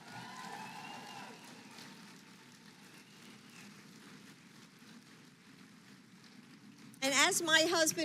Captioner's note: applause